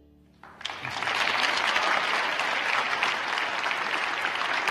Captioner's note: crowd applauding